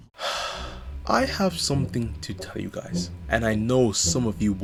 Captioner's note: sigh